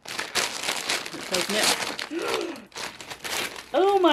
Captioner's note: gasp